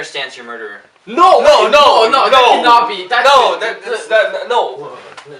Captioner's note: loudly protesting